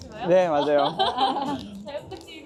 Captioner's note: laughs